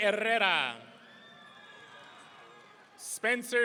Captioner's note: audience cheering